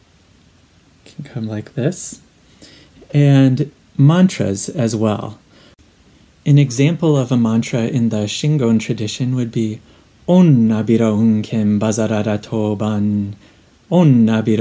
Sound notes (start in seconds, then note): 12.7 reciting